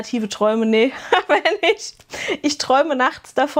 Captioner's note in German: gelächter